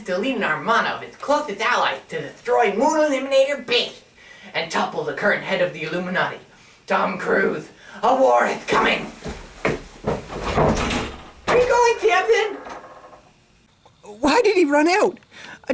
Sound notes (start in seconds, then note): 9.1 Sampson loudly rushes out the door